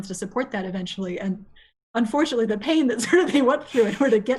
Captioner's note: laughs